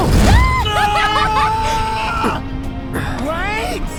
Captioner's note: screams